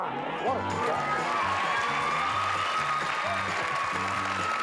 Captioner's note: cheers and applause